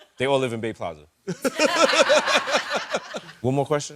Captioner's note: laughing